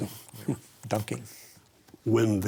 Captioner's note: chuckles